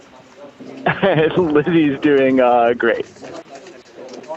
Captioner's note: laughs